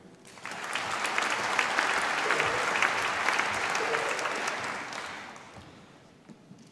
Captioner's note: applause